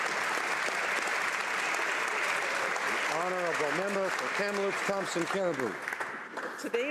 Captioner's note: applause